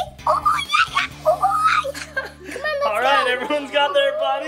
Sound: Adley squealing

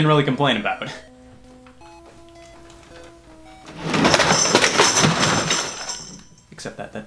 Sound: soft music; shelf crashing

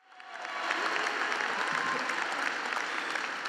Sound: clapping

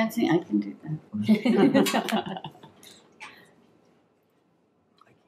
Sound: laughing

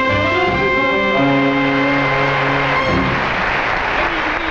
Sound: audience applauding

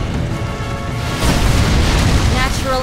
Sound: dramatic music playing; explodes

